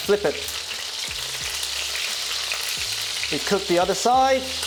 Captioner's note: sizzling sound